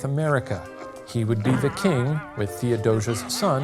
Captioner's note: crown boinging; Aaron cackling softly